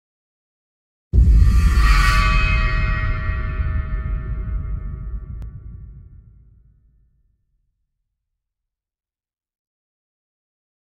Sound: sound of long sweep

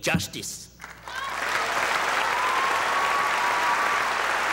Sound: audience applauding

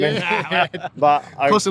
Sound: laughing

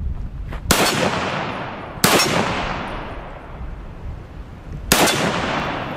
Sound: gun fires

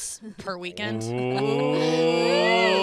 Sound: collective oohs

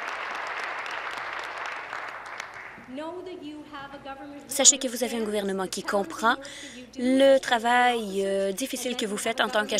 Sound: applause

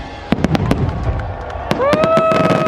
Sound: guests cheering; fireworks banging

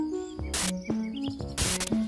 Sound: static noise

